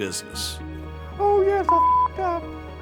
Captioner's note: beep